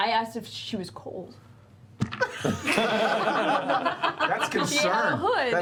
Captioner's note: laughter